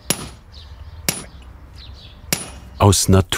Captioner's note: hammering